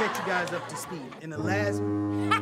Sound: horn blaring; laughter

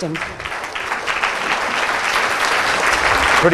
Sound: applause

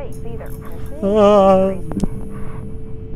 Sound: scared noise

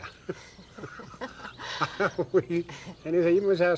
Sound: laughs

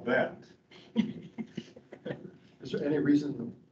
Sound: both laughing

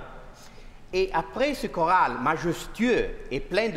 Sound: speaking french

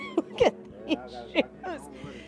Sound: laughter

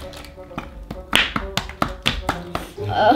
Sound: tapping

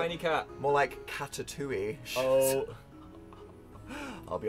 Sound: weird old man laugh

